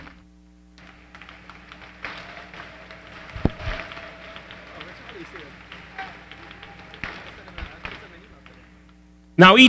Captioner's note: applause